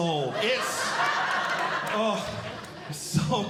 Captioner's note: audience Laughing